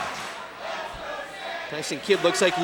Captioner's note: fans chanting